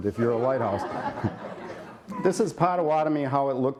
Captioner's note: laughter